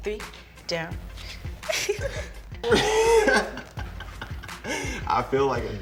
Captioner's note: laughing and grunting